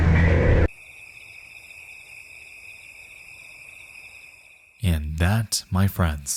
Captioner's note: crickets chirping